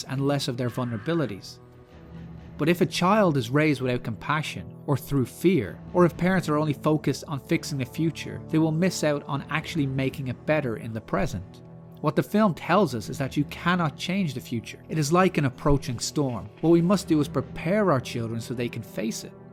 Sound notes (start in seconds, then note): none